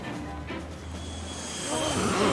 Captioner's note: whoosh; grunting